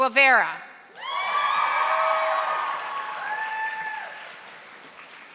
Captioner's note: audience applauding